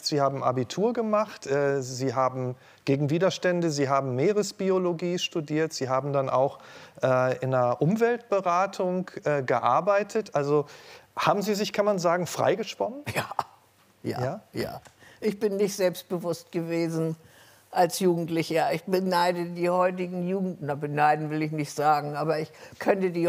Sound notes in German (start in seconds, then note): 13.5 lachend